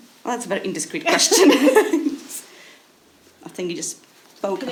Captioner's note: women laughing